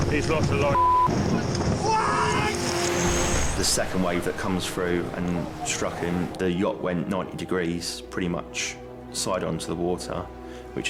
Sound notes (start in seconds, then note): 0.7 beep; 1.8 lifeguard screaming